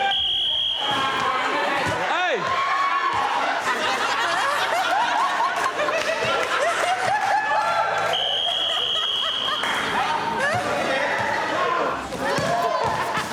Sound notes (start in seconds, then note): 3.9 laughing and shouting; 8.1 repeatedly blows whistle